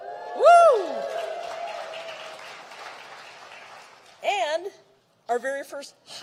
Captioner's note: applause